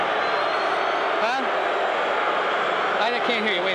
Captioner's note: crowd booing